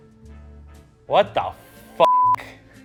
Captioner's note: beep